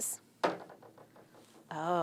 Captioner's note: marble clunks